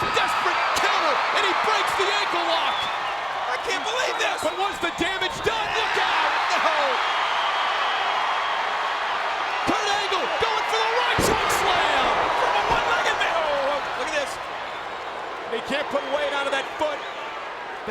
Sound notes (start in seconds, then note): 6.0 crowd cheering